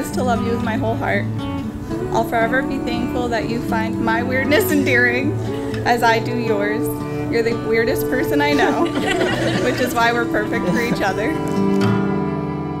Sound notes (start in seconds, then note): 8.6 audience laughs